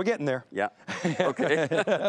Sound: both laughing

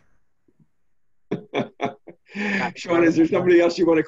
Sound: laughs

